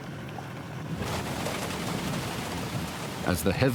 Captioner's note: rain pattering